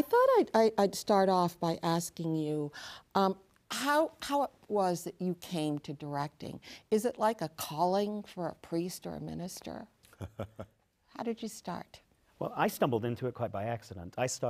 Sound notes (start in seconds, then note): 10.1 laughs